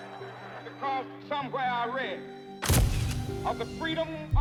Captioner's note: audience chattering; flash clicks